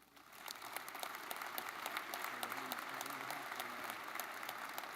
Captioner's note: audience clapping